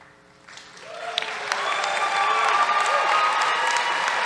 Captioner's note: cheers, applause